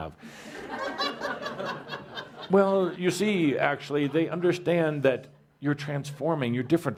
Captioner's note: laughter